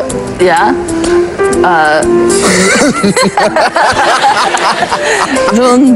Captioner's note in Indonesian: tertawa